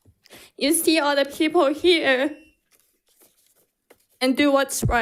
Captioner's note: timer beeps